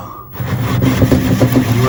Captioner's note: banging